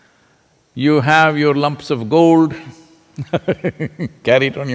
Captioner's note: laughs